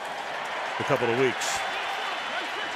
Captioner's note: cheering